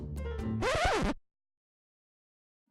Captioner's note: record scratch